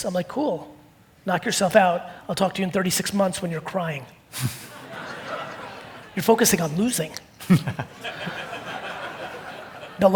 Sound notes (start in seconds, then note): 4.4 audience laughing